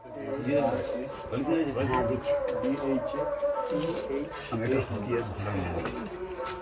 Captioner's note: people chatting in a foreign language